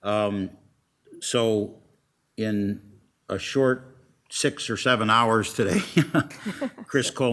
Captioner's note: laughs